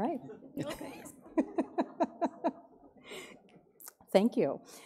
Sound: laughs

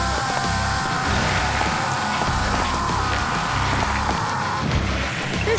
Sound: growling

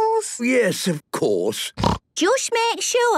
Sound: snorts

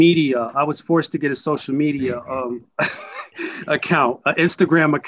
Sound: chuckles

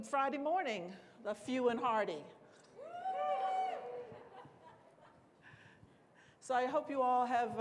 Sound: cheering

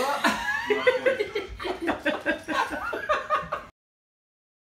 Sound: laughing

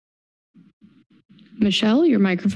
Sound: static noise

